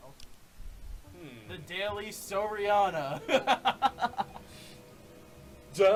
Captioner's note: laughs